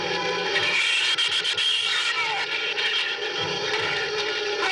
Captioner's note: shrews chattering